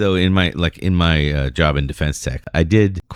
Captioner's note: uh